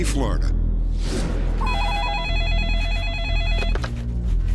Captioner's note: phone ringing